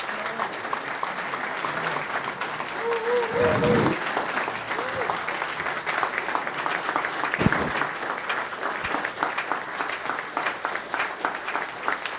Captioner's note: applause